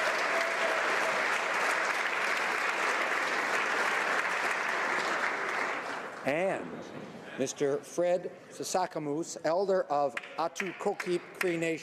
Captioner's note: applause